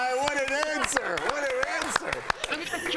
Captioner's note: applause; laughter